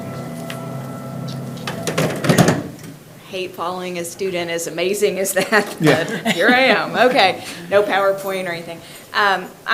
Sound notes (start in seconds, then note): 1.7 item clatters; 5.4 laughs